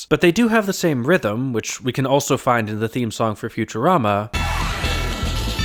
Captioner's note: bang